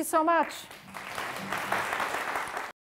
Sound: applause

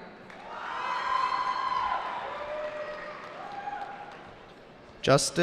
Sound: cheering

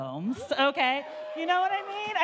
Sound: audience cheering

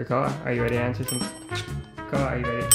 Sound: bell dinging

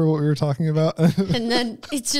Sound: laughs

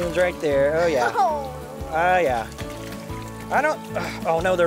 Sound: laughing

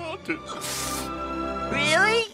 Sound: big sniff

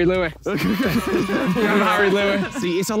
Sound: children cheering

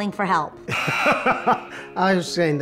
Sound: laughing

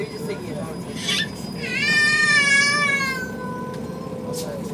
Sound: boy crying

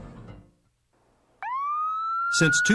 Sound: police Siren

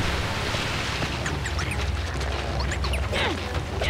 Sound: chirping; grunting

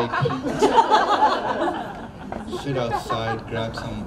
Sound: crowd laughs

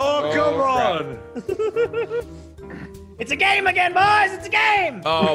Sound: laugh

